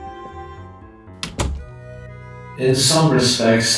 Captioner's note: irrationally satisfying sound of a door closing